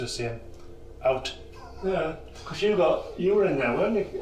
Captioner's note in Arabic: يضحك